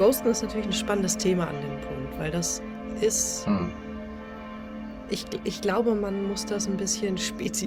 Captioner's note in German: räuspern